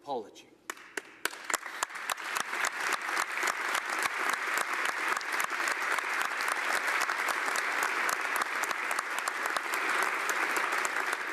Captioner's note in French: Applaudissements